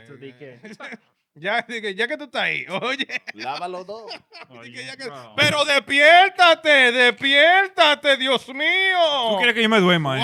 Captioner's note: speaking In Foreign Language